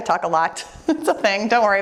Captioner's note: laughing